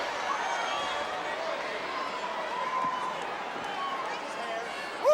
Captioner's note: audience cheering